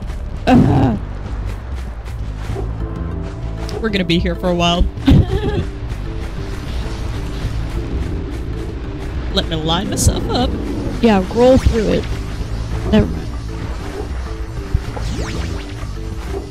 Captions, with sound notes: Ugh! We're gonna be here for a while. (laughter) Let me line myself up. Yeah, roll through it. Never mind.